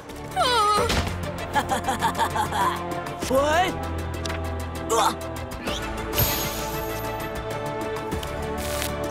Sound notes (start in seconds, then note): 1.4 laughing